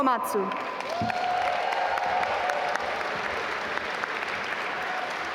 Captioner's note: audience applaud